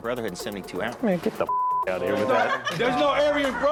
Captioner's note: beep; everyone laughing